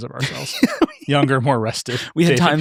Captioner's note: laughing